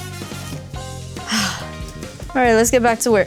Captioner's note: exhales